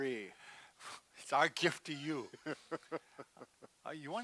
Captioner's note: laughs